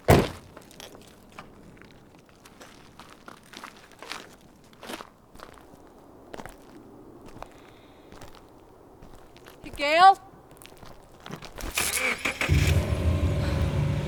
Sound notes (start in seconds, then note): 5.9 footsteps on gravel; 11.6 engine starting